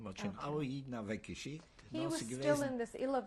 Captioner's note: speaking yiddish